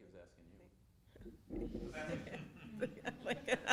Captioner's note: laughs